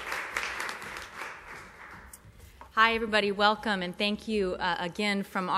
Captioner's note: applause